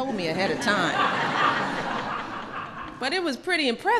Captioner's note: laughter